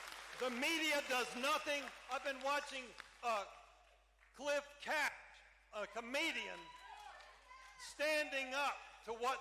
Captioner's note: cheering